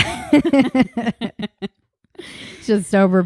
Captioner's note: both laughing